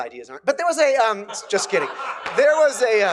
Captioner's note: laughter